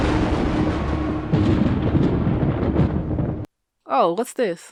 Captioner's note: thunder crashing